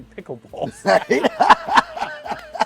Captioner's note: both laughing; chuckles